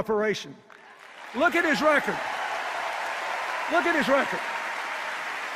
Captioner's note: applause and cheers